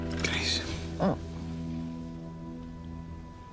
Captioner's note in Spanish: Susurra